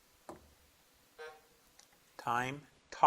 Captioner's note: buzzer blips